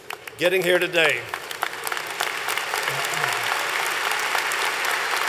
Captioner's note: applause